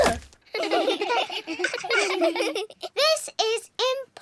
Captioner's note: all giggle